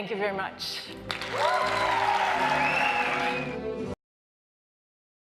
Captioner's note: crowd applauds